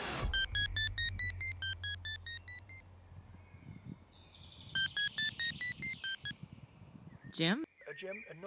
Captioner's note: phone ringing